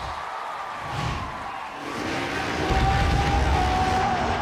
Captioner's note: cheering